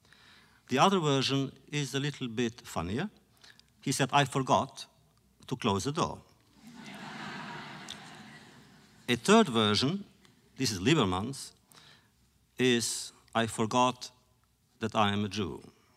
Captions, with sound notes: The other version is a little bit funnier. He said, “I forgot to close the door.” (laughter) A third version -- this is Lieberman’s -- is “I forgot that I am a Jew.”